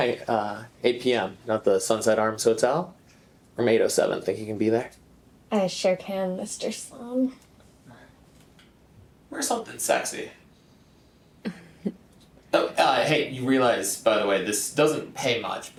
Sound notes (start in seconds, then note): 11.4 Farrah chuckles